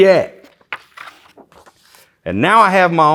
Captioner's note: pages rustling